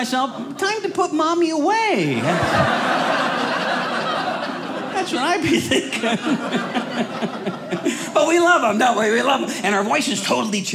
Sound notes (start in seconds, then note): 2.1 audience laughing